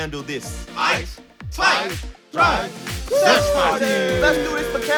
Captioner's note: chants